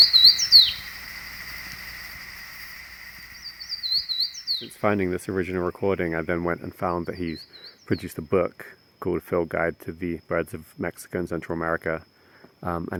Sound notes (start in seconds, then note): 4.5 fan-tailed Warbler sings